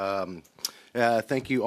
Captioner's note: speaking French